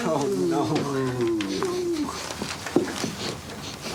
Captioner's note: all sniffing